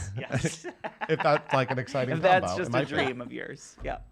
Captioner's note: laughter